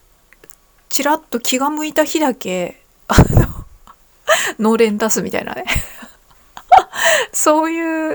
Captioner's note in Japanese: 笑い